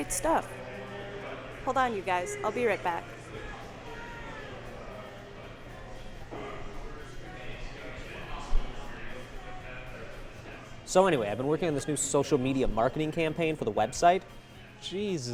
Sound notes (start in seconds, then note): none